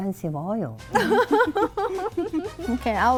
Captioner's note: laughing